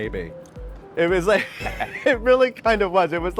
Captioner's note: laughing